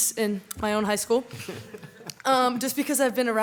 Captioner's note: audience laughs